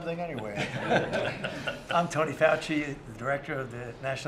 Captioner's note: laughter